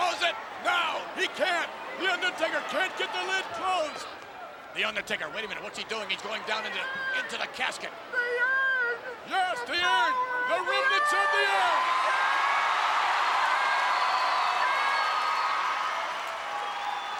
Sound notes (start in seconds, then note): 12.8 crowd cheering